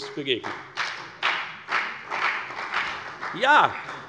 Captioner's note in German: Beifall bei der FDP und der CDU